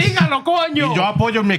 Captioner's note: speaking In Foreign Language